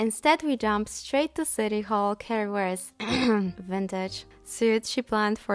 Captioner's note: ekhem ekhem